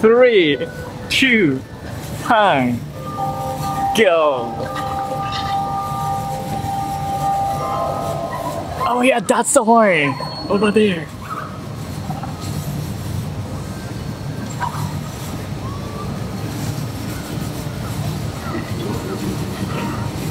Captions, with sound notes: 3... 2... 1... [CLOCK CHIMES] Go! Oh yeah! That's the one! Over there.